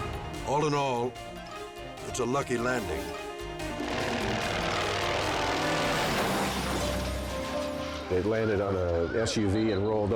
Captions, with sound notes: All in all, it's a lucky landing. (aircraft humming and crushing) - It landed on a SUV and rolled over.